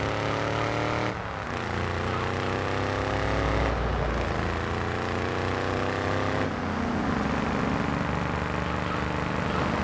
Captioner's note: engine revving